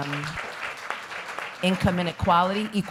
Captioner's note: applause